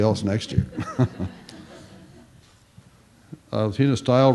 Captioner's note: chuckles